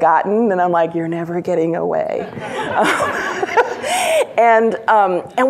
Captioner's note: laughs